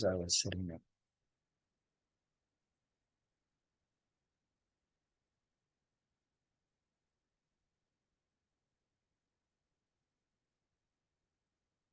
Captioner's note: pause